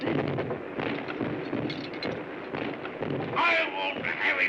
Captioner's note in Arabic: انفجارات ناعمة